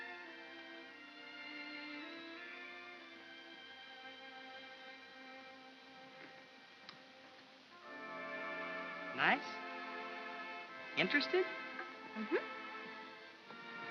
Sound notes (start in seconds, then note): 6.9 kiss smooches lightly; 13.7 soft music